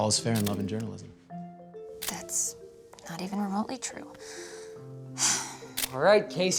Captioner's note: sighs